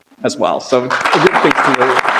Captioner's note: applause